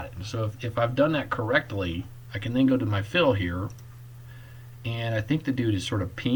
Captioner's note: click